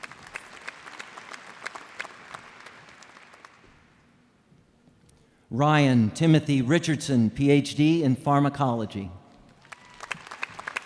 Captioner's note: applause